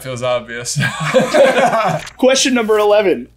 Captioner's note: laughter